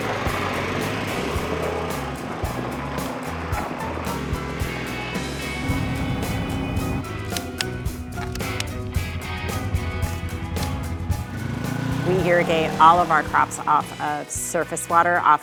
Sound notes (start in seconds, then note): 0.0 engine whirring; 8.0 clippers clicking; 11.8 engine whirring